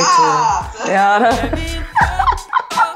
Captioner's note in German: Lachen